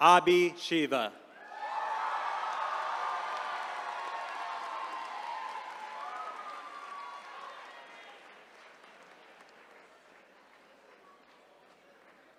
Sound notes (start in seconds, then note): 3.5 attendees cheering